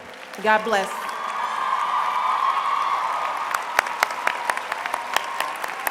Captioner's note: applause